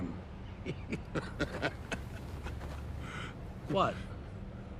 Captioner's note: Eddie laughing